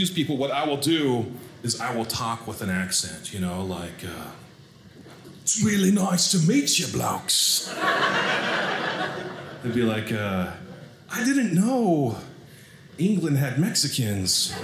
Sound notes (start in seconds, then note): 4.3 english accent; 7.6 audience laughing; 14.4 audience laughing